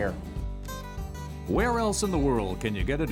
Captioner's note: voiceover